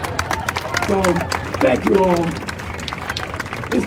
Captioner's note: crowd cheering